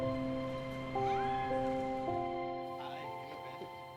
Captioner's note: passerby squealing